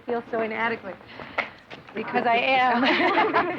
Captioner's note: laughing